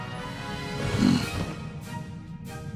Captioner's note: grunts